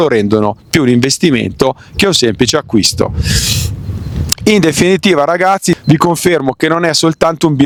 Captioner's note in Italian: sbuffare